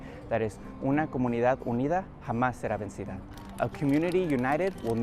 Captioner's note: speaks Spanish